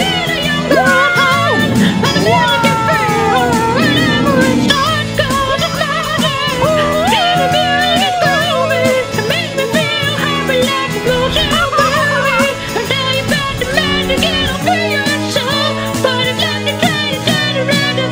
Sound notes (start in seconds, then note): 6.5 yelling